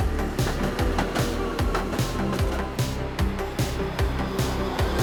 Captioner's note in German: Straßenbahnlärm